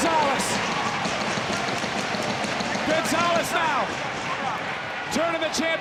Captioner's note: applause